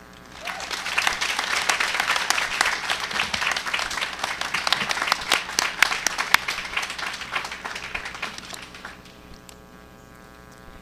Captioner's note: applause